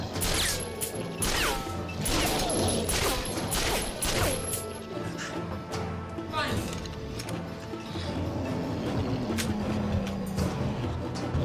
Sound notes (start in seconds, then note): 2.8 gunshots popping; 7.8 sphinx growling